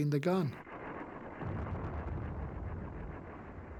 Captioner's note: booming